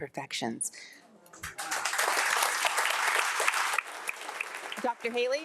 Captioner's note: audience applauding